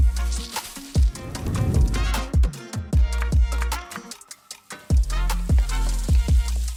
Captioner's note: cooking sounds